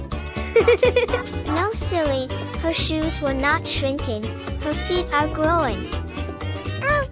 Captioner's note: giggling